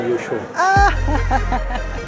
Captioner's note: chuckles